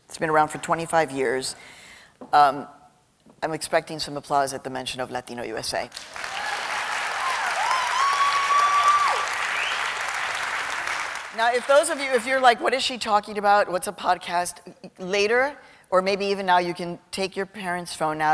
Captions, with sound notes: It's been around for 25 years. I'm expecting some applause at the mention of Latino USA. [APPLAUSE AND CHEERING] Now if you're like, what is she talking about? What's a podcast? Later, or maybe even now, you can take your parents' phone